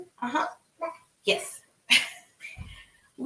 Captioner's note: laughs